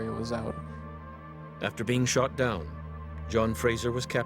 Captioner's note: voiceover